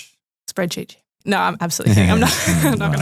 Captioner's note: laughs